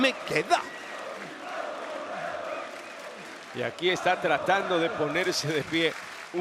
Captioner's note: applause